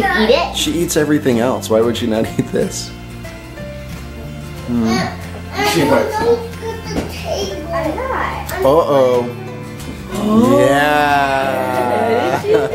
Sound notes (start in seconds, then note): 4.6 children talking in background